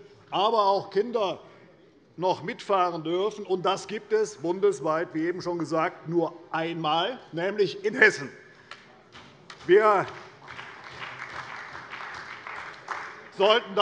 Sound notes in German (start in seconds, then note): 9.5 Beifall bei der CDU und dem BÜNDNIS 90/DIE GRÜNEN